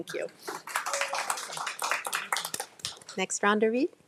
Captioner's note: attendees applauding